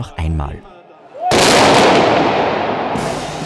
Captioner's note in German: Schuss